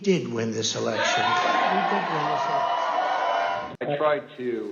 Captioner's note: cheers and applause